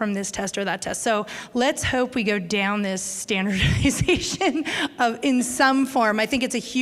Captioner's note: chuckle